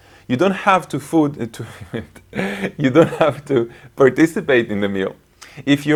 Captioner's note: laughs